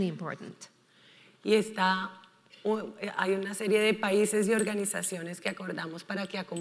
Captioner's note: speaking in foreign language